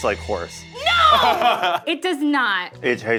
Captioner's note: chefs laughing